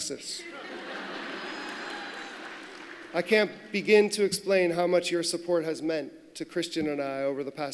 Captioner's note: laughter